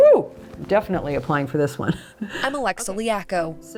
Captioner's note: chuckles